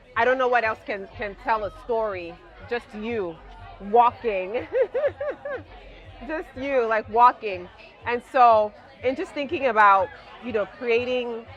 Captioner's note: laughs